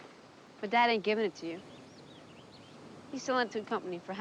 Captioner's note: foreign language